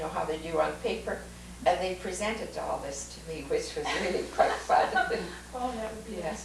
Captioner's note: laughter